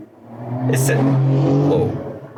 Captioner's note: car engine roaring